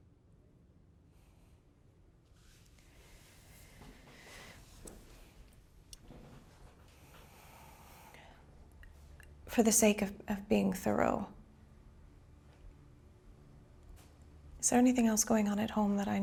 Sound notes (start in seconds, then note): 2.8 Dr. Tawny breathes uneasily; 11.7 tense music